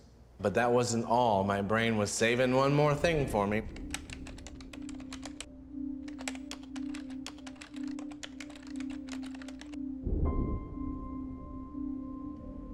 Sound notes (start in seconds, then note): 3.8 keypad beeping; 9.6 tense music playing